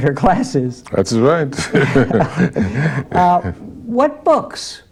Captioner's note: laughter